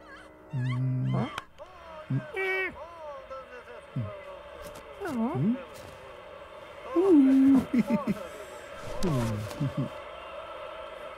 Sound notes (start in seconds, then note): 0.1 channel changes - Scary movie screams; 2.8 channel changes - Muffled football commentary